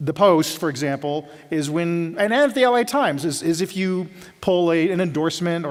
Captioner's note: none